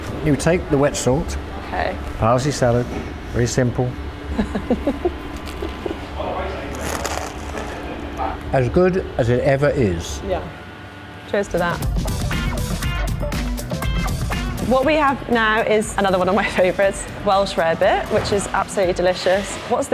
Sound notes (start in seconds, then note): 4.3 laughing; 12.4 upbeat music